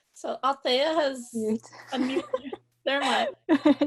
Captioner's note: laughs